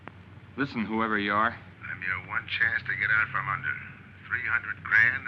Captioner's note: on phone